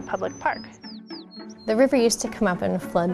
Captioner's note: birds tweeting